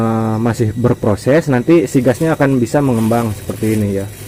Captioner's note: crackles